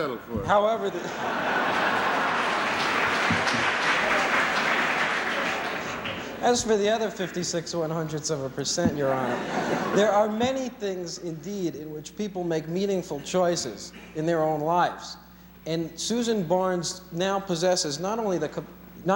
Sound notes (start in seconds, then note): 0.9 laughter; 3.0 applause